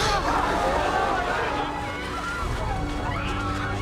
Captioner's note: all screaming